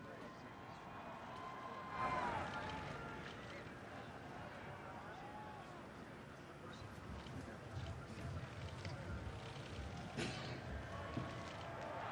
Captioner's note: shouting